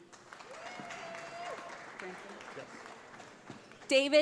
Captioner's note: audience applauds